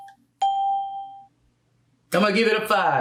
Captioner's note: bell rings